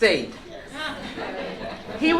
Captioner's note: laughter